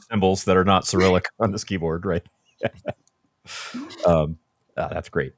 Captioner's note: laughs